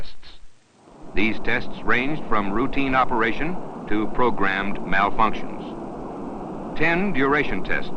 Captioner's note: sound of Engines Firing